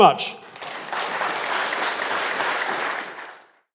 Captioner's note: audience applauding